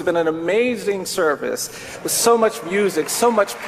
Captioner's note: applause